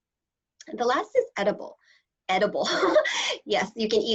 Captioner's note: laughter